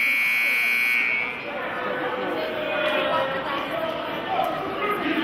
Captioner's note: buzzer sounding